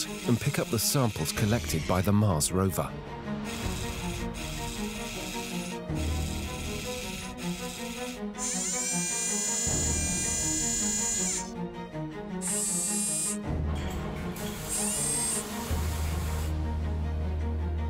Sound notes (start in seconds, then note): 3.4 rover whirring; 3.9 compelling music